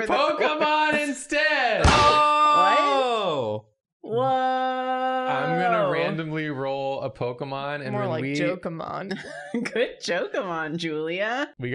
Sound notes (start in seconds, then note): 1.8 Drawfee smack sfx